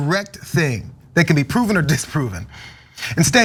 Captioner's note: laugh